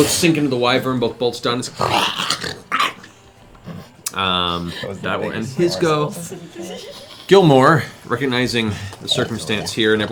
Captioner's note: snarling